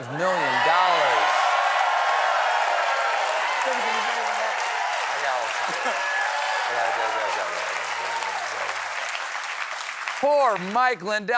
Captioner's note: cheers and applause